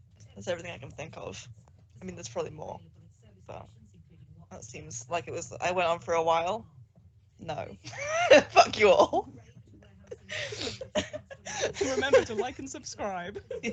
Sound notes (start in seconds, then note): 10.0 laughs